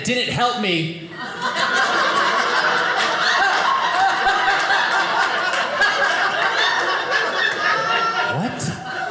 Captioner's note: audience laughing